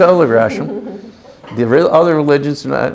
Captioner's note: chuckles